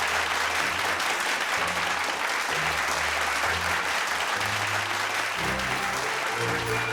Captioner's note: crowd clapping